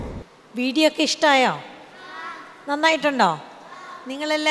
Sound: children agreeing

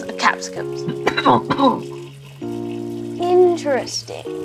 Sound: coughing

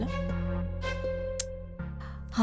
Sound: clicks tongue

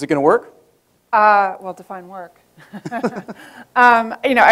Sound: laughs

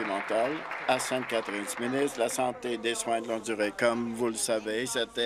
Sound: applause

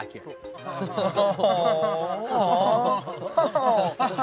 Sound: laughing

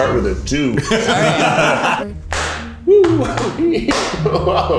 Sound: all laughing; laughing

